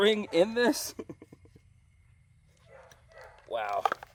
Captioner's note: chuckling; distant barking